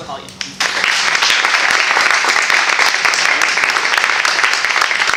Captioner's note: applause